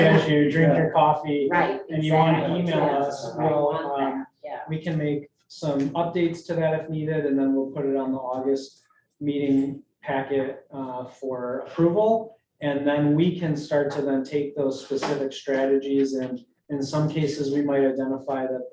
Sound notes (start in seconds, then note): 3.9 group murmuring